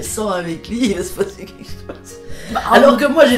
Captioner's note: laughs